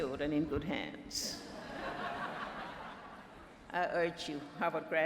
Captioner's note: laughter